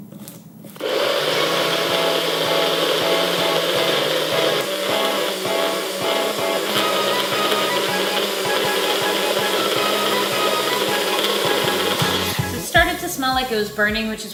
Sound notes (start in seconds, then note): 1.1 blender whirs; 1.1 upbeat music